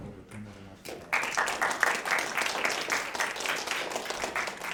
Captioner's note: audience applauds